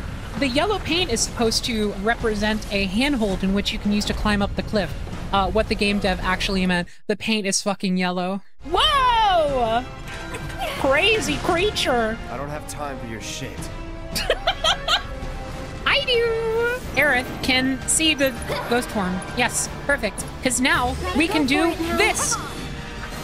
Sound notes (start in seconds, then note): 14.1 laughter